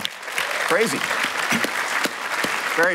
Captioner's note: applause